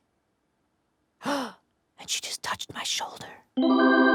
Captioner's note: gasps; whispering